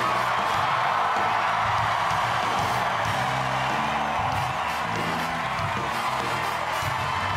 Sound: crowd cheering

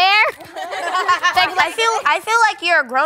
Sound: all laughing

